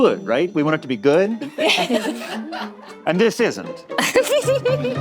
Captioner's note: all laughing